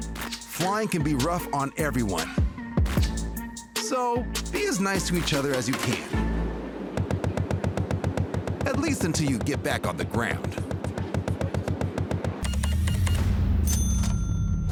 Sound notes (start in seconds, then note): 6.8 rapid thudding; 12.4 cash register beeps, dings